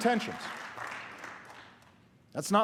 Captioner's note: applause